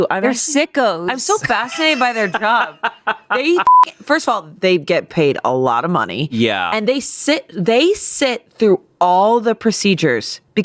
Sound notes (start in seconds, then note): 1.2 laughs; 3.6 beep